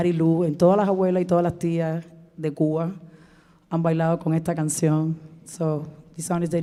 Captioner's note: speaking in Spanish